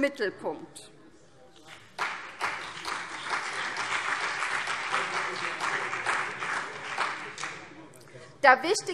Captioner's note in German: Beifall CDU und vereinzelt BÜNDNIS 90/DIE GRÜNEN